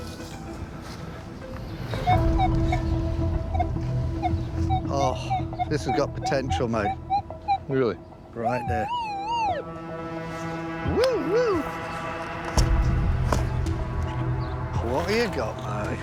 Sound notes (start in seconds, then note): 1.6 beeping; 8.2 detector whooping; 10.4 imitates detector